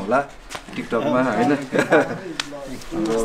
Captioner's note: laughs